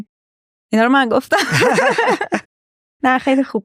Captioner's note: laughs